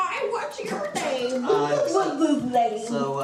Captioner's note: amused laughter